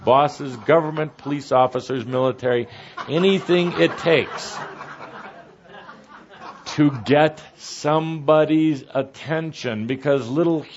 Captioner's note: laughter